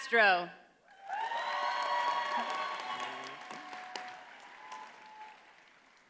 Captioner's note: audience cheers and applauds